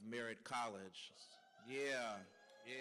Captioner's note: cheering